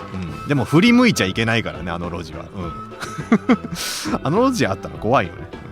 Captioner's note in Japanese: 笑い